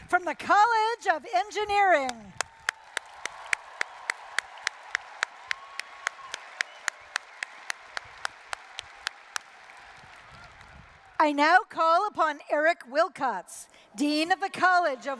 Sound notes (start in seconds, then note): 2.0 applause, cheering